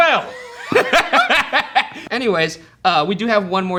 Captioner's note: laugh